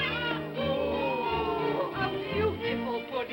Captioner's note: excited vocal sounds